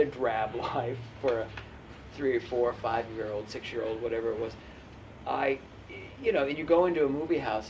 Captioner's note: laughs